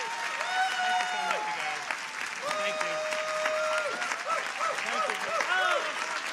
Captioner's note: audience applauding